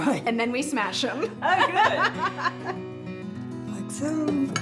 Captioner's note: laughing